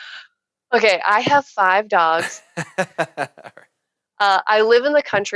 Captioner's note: laughing